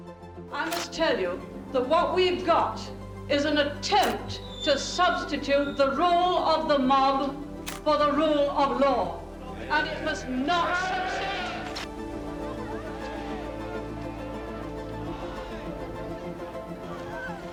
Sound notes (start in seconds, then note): 11.6 crowd yelling; 14.8 bright music